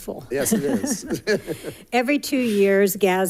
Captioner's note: laughs